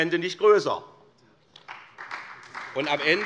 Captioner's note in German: Beifall SPD